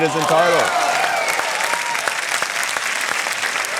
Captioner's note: cheering, applause